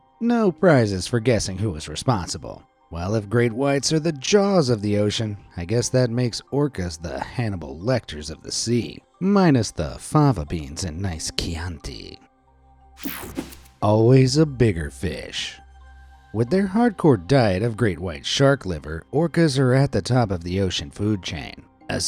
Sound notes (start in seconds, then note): 13.0 screen whooshing